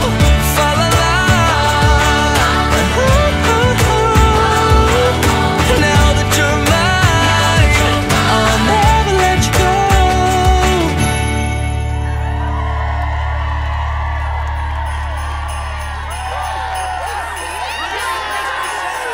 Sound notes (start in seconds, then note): 11.6 crowd cheering and applauding; 14.3 bells jingling; 17.2 crowd